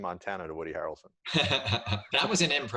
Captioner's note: laughs